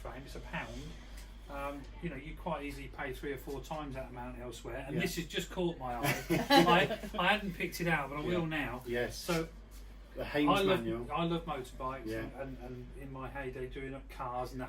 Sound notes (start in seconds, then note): 6.0 laughter